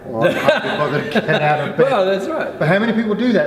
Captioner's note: laughing